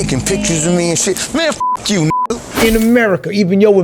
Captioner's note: beep